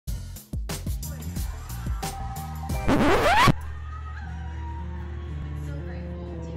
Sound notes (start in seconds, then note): 1.0 faint TV dialogue over jazzy music; 2.8 record scratch